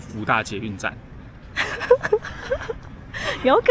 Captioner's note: laughs